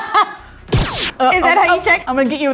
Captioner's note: laughing; laser blasting